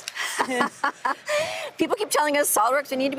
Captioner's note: laughs